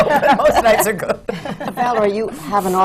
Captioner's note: laughter